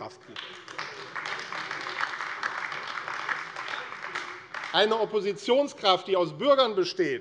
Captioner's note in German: Beifall